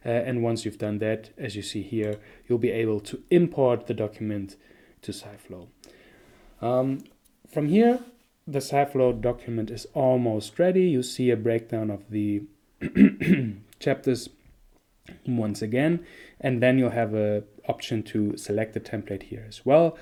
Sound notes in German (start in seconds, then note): 12.8 räuspert sich